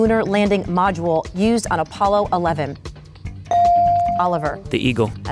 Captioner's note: bell dings